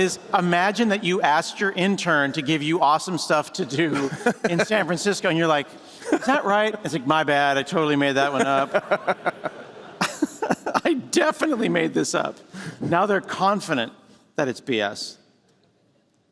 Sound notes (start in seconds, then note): 8.2 laughter